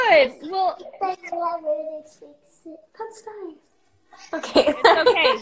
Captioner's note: laughs